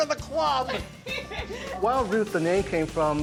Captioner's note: laughing